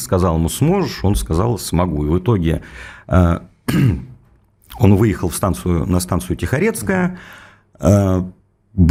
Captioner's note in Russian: откашливается